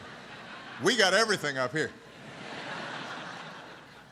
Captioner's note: laughter